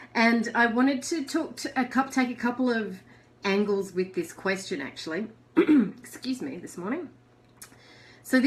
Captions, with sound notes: And I wanted to take couple of angles with this question, actually. (clears throat) Excuse me, this morning.